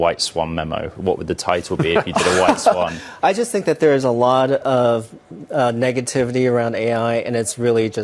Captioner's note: laughter